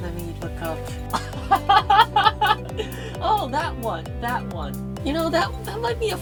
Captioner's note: laughs